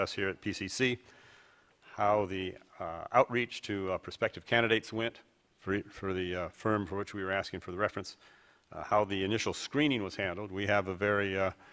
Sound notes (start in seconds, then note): none